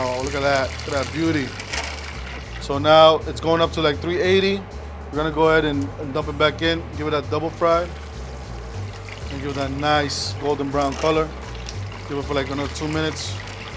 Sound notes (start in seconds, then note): 7.7 oil sizzling